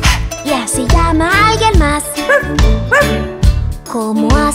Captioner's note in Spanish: Ladrido